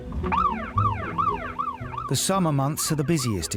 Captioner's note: siren wailing